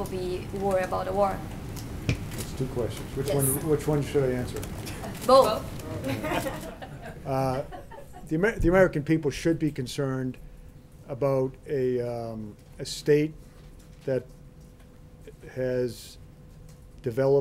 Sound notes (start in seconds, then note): 6.0 laughter